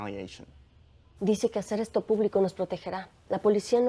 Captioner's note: speaking spanish